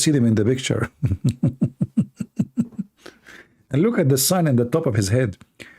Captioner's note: Ketawa